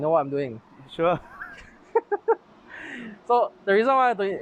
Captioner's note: laughs